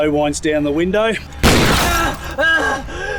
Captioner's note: gunshot